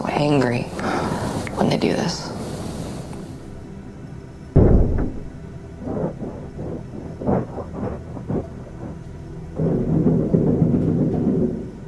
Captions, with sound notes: so angry when they do this. (muffled thumping) (muffled saw scraping)